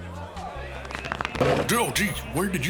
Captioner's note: fast speaking